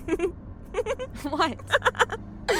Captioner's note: laughing